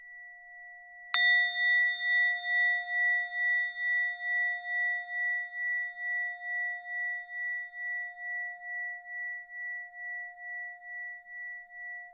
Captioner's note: bell sound